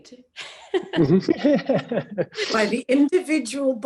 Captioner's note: all laughing